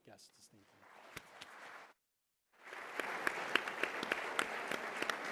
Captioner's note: applause